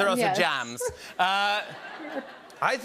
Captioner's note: laughter